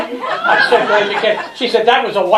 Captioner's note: laughter